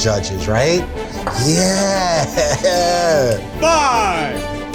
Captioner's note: laughs